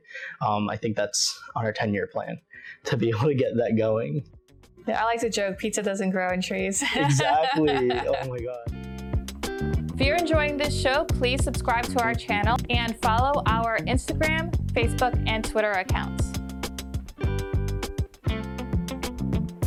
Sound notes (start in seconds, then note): 6.7 laughs; 8.8 peaceful music; 16.3 peaceful music